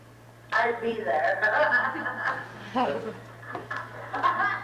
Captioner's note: both laughing